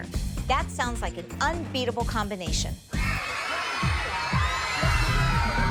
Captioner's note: screaming